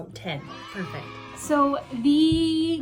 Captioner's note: kids cheering